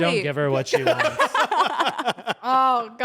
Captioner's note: everyone laughs